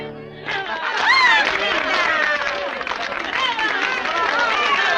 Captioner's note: applause and cheering